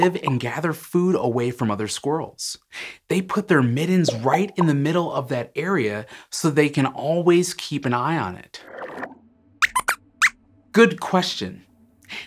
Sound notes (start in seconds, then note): 9.2 squeaks squeaks